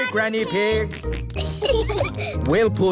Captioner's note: peppa and george giggling